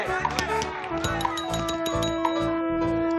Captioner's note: bell ringing